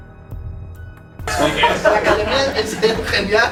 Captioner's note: tense music; laughs